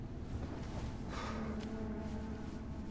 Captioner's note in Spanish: Suspiros